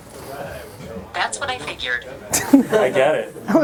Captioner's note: voiceover; laughing